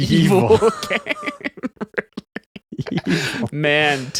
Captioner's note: laughing